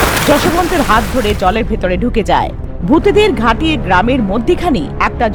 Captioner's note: waterfall